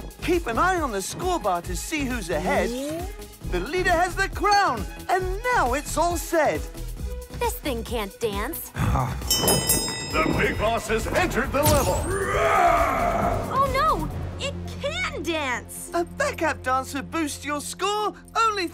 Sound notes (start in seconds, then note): 9.2 bell rings; 12.0 roar